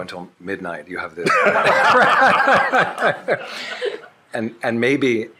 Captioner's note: shared laughing